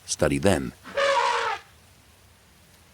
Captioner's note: elephant trumpeting